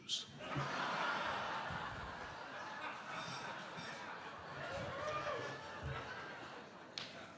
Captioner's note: audience laughing